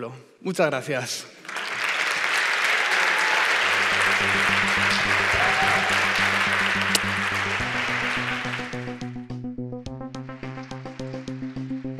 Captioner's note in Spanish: aplausos